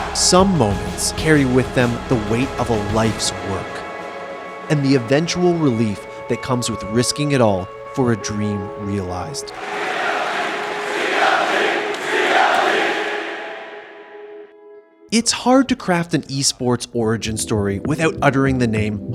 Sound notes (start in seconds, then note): 9.5 Crowd chanting CLG